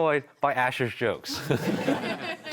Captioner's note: audience laughter